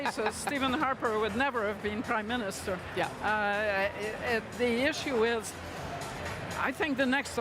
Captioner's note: laughter